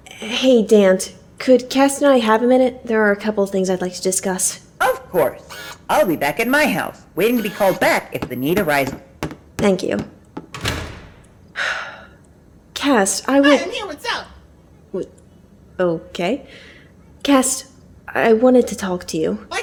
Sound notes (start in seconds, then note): 11.6 Adelpha sighs